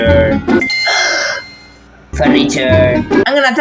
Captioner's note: gasps